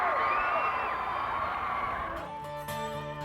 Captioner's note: crowd cheering; twangy country music